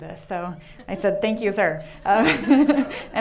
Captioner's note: laughing